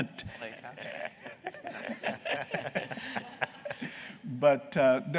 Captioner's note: laughter